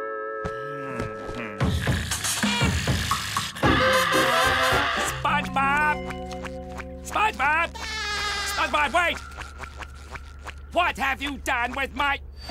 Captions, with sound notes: [sighs] [snoring] [screaming] [screaming] SpongeBob! SpongeBob wait! What have you done with my--